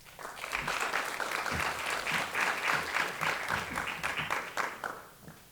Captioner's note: applause